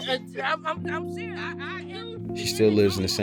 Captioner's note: someone laughs behind camera